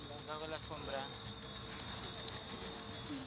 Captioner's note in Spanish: Campanas